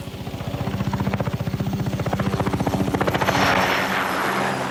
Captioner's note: aircraft whirring